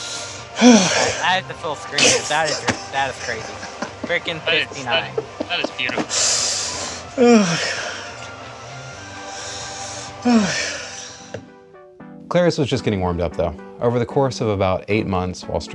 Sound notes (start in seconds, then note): 0.0 laughing; 6.0 breathing heavily